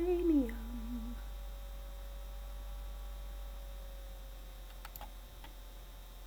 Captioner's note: laptop whirring